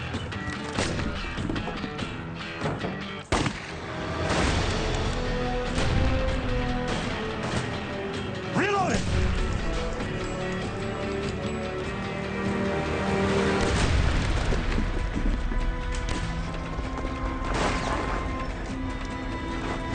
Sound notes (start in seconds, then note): 1.4 upbeat music; 3.0 guns firing; 13.6 gun fires; 16.4 somber music